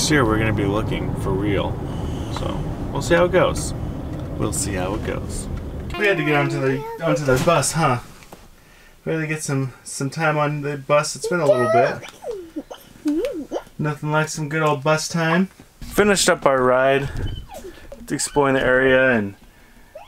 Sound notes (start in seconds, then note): 13.1 humming